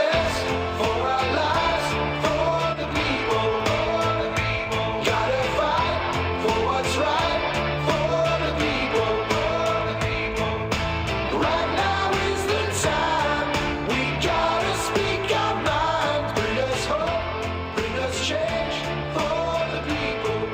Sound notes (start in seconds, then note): 1.1 whistling rhythmically